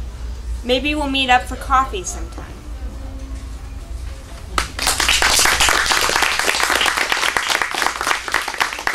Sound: applause

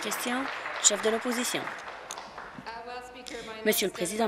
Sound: applause

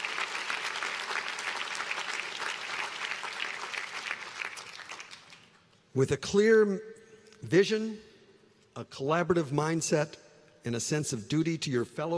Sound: applause

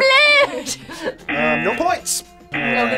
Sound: laughs; buzzer

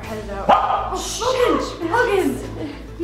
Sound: barks

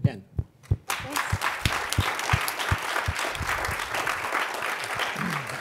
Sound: class clapping

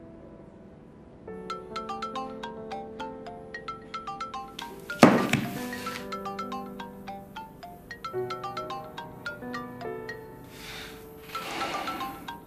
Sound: mobile ringing

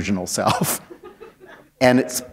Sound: chuckle

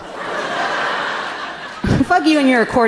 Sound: audience laughing amusingly

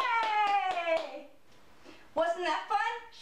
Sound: clapping

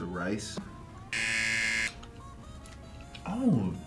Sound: buzzer rings

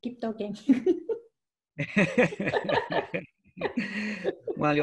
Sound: both laughing

